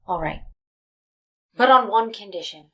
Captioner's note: none